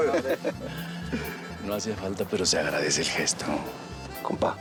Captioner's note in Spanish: todos saludan